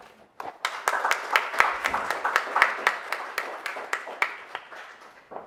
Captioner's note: audience applauds